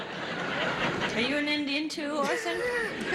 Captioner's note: audience laughs